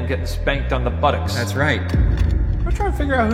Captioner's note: slide projector clicks